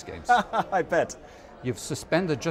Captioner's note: laughs